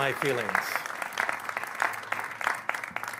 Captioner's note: applause